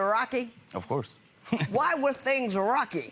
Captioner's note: chuckles